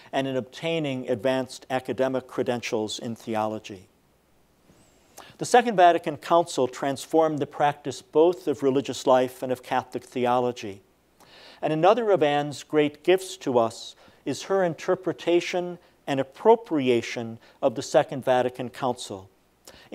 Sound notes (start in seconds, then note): none